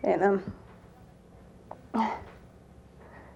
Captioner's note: catches breath